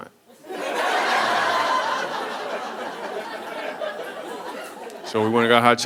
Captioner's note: audience laughing